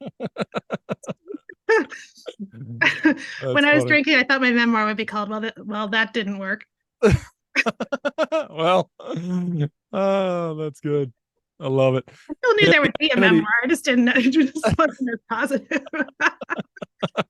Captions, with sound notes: When I was drinking, I thought my memoir would be called. "Well, that didn't work." [laughing] Well. That's good. I love it. I still knew there would be a memoir, I just didn't know... it just wasn't as positive. [laughing]